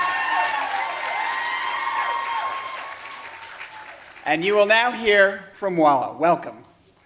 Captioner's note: applause